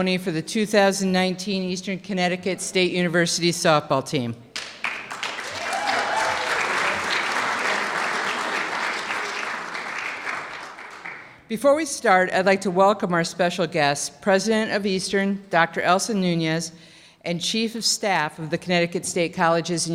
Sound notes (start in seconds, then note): 4.5 clapping